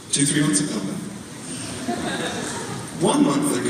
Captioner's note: audience laughs